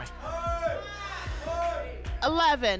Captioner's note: audience shouting numbers